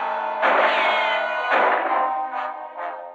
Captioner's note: gunshots